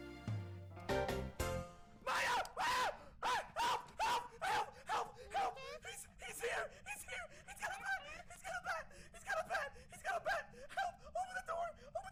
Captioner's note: incoherent screaming